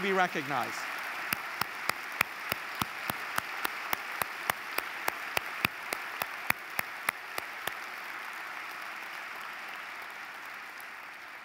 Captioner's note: applause